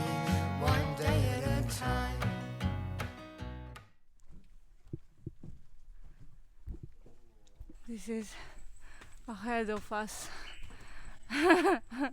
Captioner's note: laugh